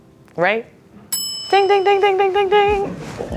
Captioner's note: bell pings